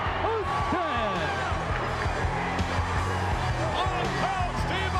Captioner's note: crowd yelling